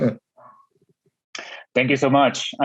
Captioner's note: chuckling